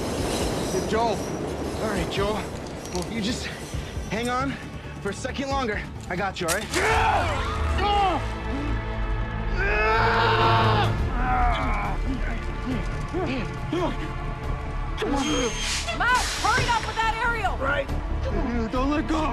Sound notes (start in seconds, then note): 9.1 yells; 11.6 both groaning